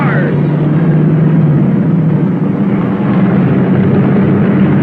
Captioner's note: cars revving